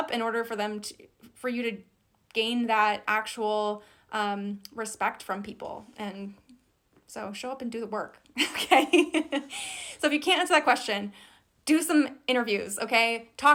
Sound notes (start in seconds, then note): 8.4 laughs